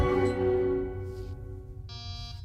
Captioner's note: door chimes